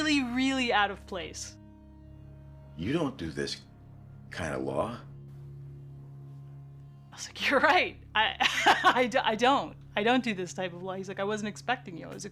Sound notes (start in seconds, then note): 8.4 risas